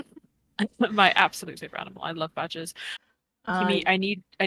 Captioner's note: giggles